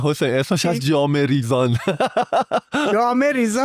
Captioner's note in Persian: خنده